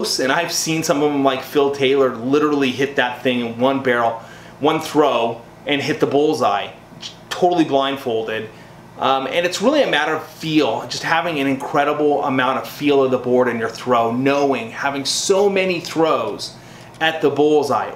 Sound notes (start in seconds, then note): none